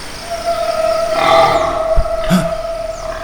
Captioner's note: pig - oink